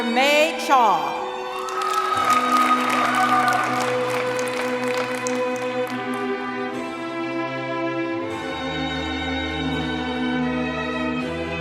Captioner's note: applause